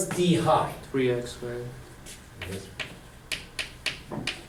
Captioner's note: voiceover